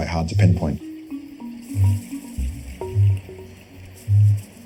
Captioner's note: Kākāpō booming